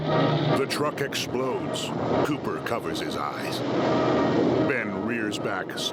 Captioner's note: explosion rumbling